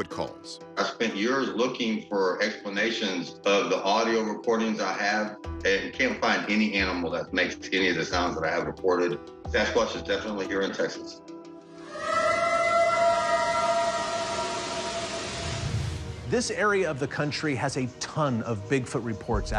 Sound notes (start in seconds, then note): 11.7 eerie howl